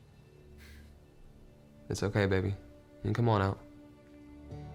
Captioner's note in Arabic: تنهدات